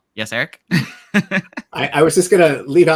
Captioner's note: giggles